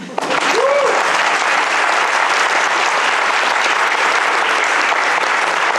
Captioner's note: applause